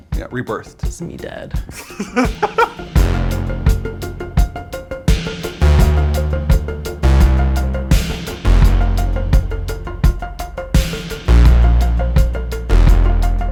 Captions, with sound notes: - Yeah, rebirthed. - This is me dead. (laughs) (rhythmic music)